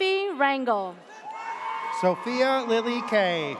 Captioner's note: audience cheers